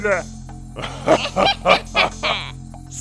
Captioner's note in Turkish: Gülme sesi